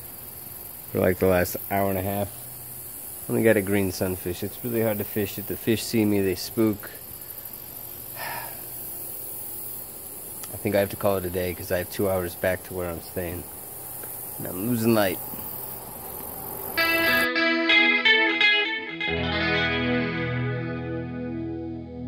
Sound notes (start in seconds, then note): 8.1 sighs; 16.7 mellow guitar transition